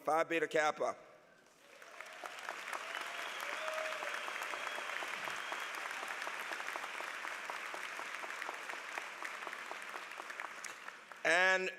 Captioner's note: applause